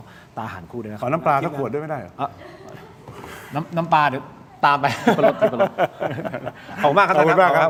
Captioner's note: laughs